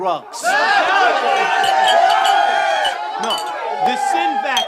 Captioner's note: cheering